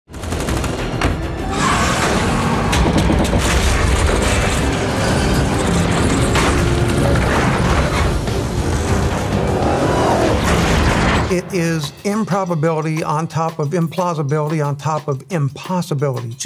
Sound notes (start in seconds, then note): 0.0 car tires screeching; 0.0 dramatic music; 3.3 wall cracking; 8.7 engines revving; 12.3 jaunty music